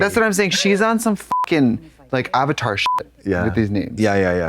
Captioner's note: beep